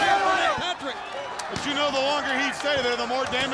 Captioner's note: hands thudding